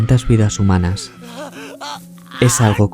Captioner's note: shout